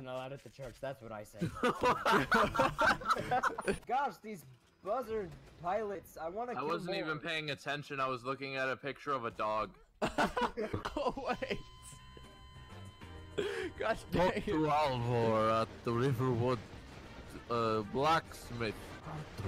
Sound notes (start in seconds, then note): 1.4 laughing; 10.0 laughing; 10.0 laughs; 14.1 Reciting something from Skyrim with an accent